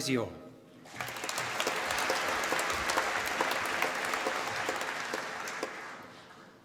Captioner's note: applause